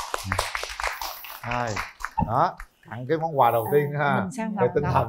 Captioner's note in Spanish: Aplaudir